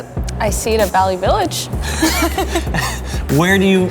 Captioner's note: both laugh